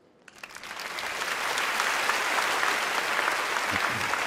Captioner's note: applause